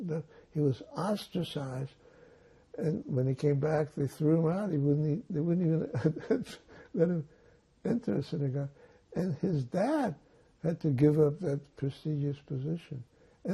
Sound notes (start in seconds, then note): 5.5 laughing